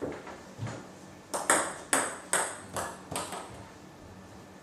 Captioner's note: balls ping pong hitting continues